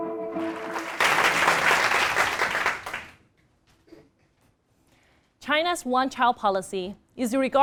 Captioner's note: applause